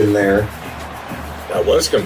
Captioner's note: crowd Noises